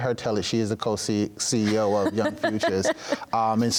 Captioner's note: interviewer laughs